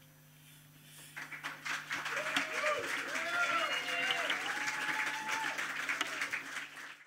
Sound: applause

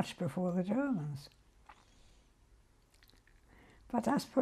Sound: pauses for 3 seconds

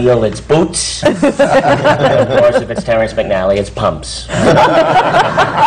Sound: laughter

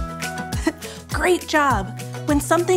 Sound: chuckles

